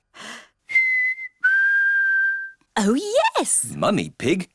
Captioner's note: whistles